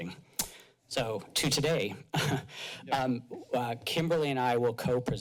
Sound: chuckles

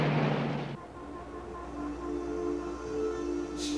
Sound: horns beeping; tense music

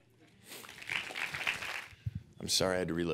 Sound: clapping

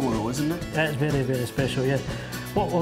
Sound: with Scottish accent

